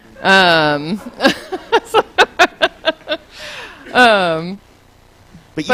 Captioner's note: laughs